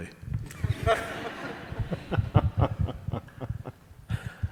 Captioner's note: all laughing